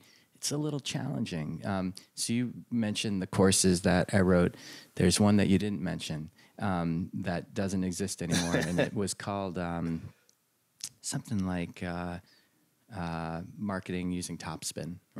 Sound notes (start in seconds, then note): 8.3 laughter